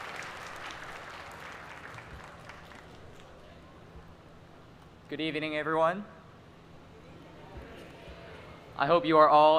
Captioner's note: applause